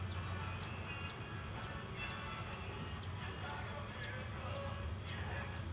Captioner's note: chicks chirping